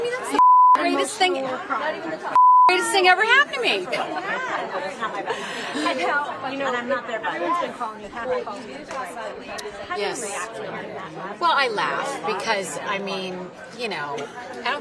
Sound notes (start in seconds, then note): 2.3 beep